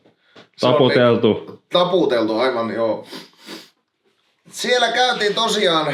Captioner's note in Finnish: niiskuttaa